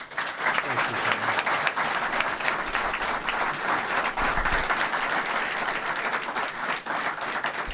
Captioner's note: applause